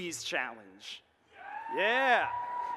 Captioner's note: audience cheers